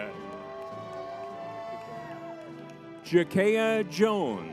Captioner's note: crowd cheering